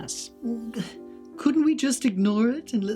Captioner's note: sighs